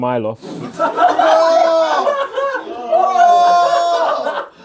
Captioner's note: audience laughs